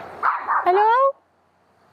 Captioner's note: dog barking